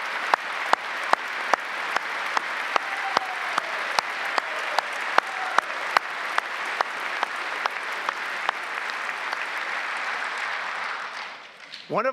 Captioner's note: applause